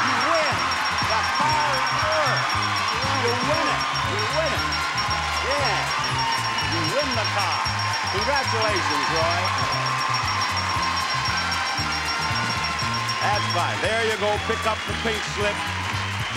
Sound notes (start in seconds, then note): 0.0 bell chiming; 10.3 audience applauding; 10.3 bell chiming